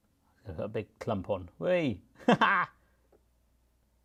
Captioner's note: laughs